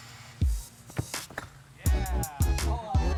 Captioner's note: ball bouncing